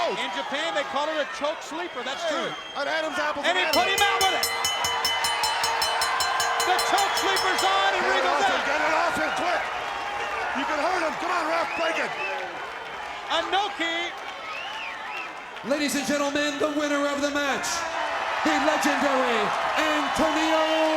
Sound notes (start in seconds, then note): 3.6 bell dinging